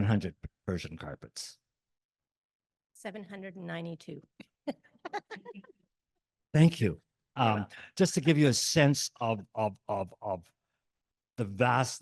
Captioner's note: laughs